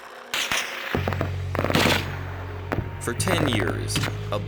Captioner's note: guns fire